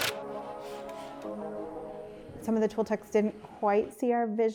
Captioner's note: screwdriver clicking